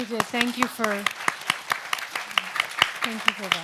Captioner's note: audience applauds